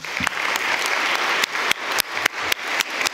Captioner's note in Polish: oklaski